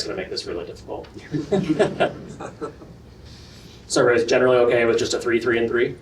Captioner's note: laughter